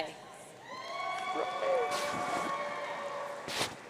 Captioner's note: audience cheering